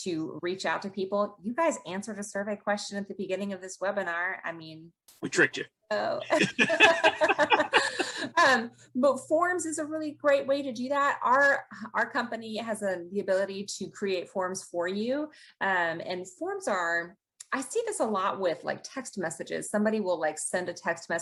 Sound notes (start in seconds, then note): 6.2 they laugh